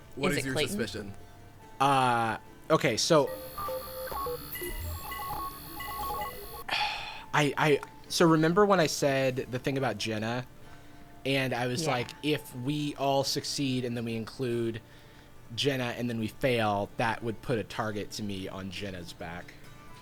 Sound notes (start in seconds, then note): 3.2 computer calculating sound effects